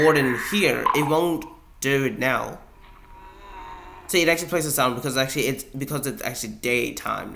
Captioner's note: Warden whines